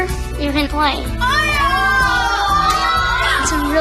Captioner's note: cheering